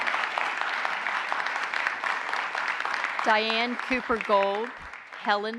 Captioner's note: applause